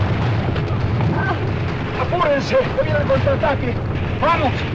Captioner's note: moaning